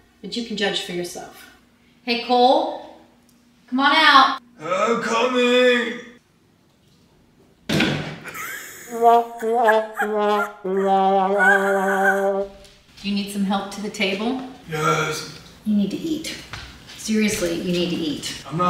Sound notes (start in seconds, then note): 8.9 blooper sound effects